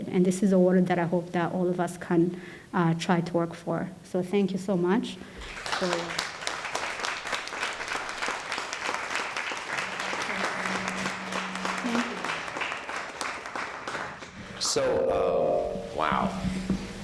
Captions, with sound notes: And this is world that I hope that all of us can try to work for. So thank you so much. (audience applauding) Thank you. - So, wow.